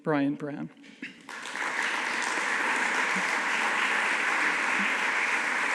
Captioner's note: audience applauding